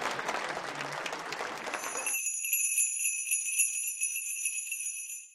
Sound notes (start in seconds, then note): 1.6 bells ringing